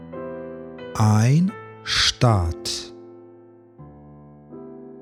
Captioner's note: german